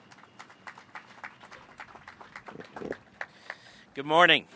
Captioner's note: applause